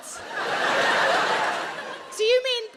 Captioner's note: audience laughs